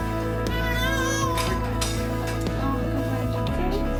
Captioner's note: baby cries